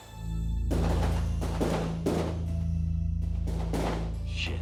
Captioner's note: bang bang bang bang